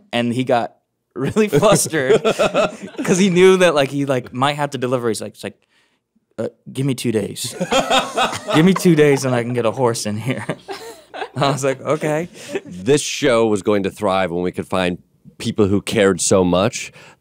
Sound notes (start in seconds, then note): 7.5 laughing